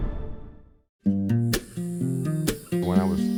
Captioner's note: cicadas